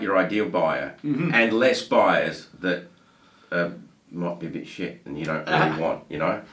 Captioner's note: beep